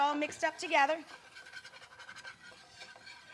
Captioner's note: scratching